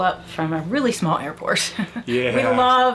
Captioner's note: laughing